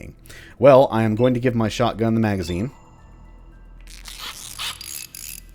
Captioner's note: tinkering noises